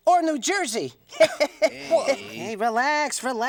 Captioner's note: bunny laughing